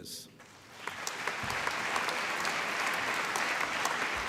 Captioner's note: applause